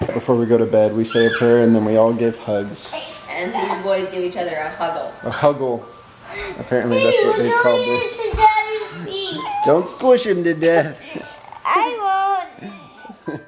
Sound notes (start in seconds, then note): 8.0 yelling